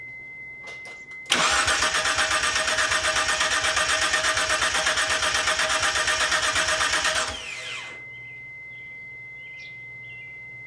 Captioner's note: engine cranks over